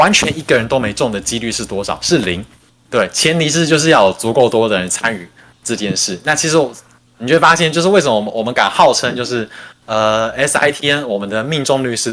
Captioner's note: non-english speech